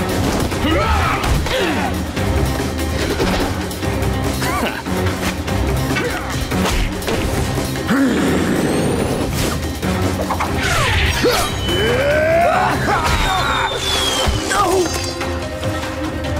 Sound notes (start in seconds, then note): 0.1 grunting; 3.8 chuckles; 7.5 growling; 10.7 grunting